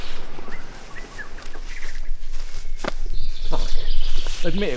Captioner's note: birds chirping